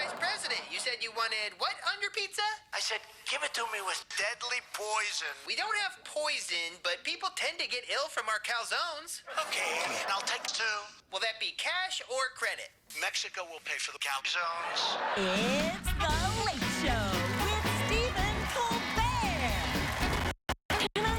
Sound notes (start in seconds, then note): 5.3 cheers and applause